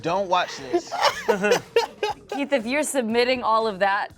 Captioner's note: cast laughs